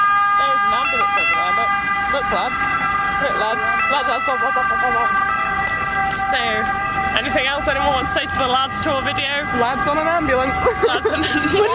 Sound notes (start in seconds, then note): 2.1 beeping noise in background continues; 9.3 beeping noise in background continues; 10.6 laughs